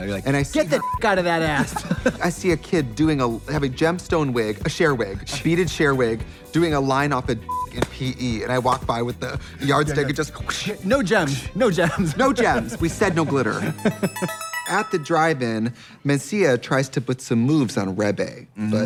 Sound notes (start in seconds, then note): 0.8 beep; 7.5 beep